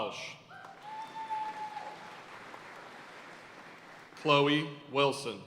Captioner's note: audience cheering and applauding